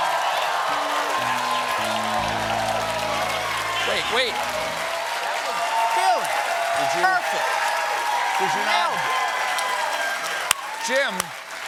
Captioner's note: cheers and applause